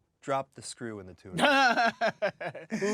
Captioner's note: laughing